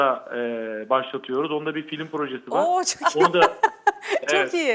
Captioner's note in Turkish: kahkaha